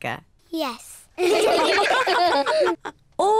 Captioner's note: all laugh